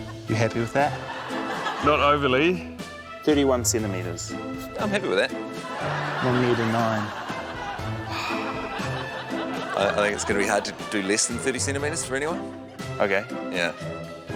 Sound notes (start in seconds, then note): 8.0 sighs